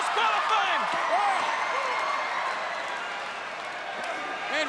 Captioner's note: crowd yelling